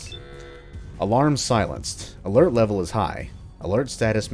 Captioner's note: klaxon Silenced